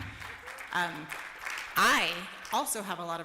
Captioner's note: applause